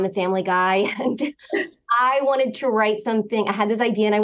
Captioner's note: laughter